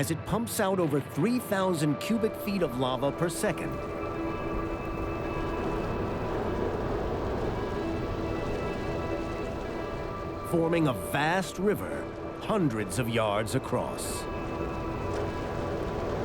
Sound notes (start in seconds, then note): 4.3 lava flowing